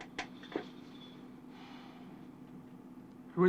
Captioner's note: sighs